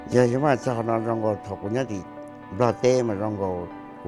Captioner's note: speaking Hmong